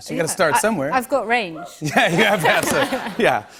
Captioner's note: laughter